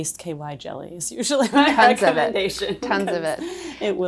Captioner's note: both laughing